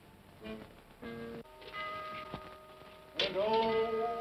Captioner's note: whimsical ominous music; clock chimes